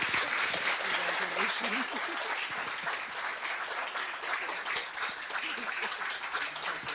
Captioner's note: clapping